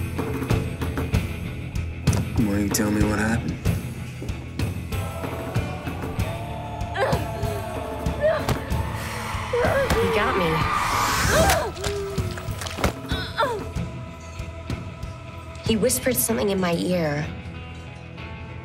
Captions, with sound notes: - Why don't you tell me what happened. (Nancy groans) - He got me. He whispered something in my ear.